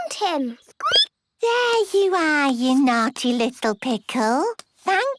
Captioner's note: squeaking